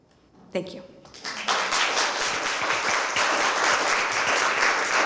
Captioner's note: applause